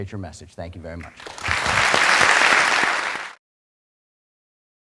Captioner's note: applause